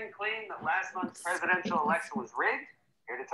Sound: television interference background noise

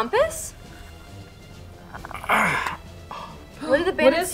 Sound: groans

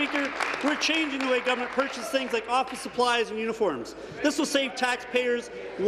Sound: applause

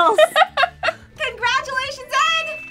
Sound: laughs

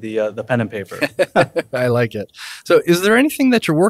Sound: both laughing

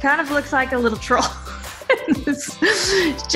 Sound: giggling

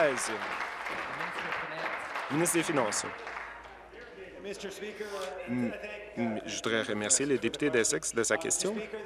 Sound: applause

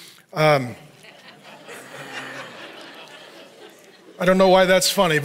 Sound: audience laughs

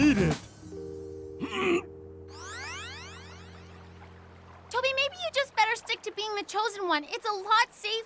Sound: gagging

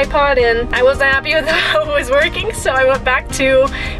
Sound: laughs

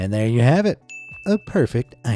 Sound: chiming sound effect

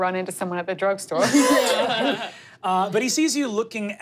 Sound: laughing

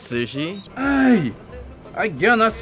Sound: French accent

